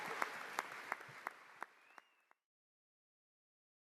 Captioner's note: applause